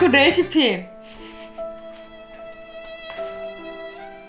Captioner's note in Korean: 웃음